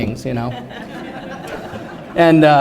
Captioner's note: laughter